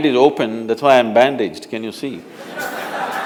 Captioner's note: laughter